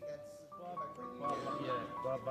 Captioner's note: men speaking